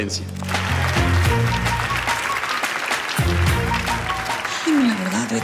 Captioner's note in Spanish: Aplausos